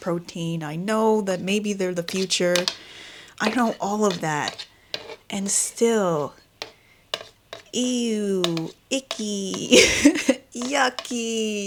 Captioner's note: laughs